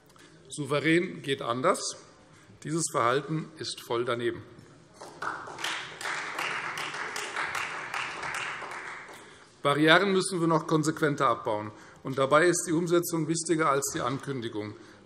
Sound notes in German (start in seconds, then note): 5.0 Beifall Freie Demokraten